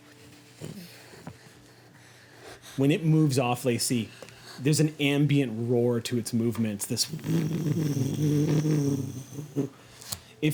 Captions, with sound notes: When it moves off, Lacy, there's an ambient roar to its movements, this (vibrating).